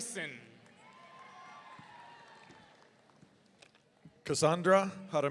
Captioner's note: audience cheering